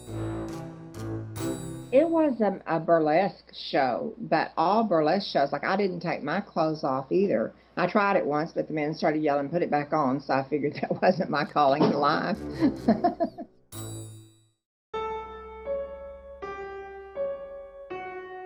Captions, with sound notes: It was a burlesque show, but all burlesque shows, like I didn't take my clothes off either. I tried it once, but the men started yelling, "Put it back on," so I figured that wasn't my calling to life. [laughs] [pensive piano music]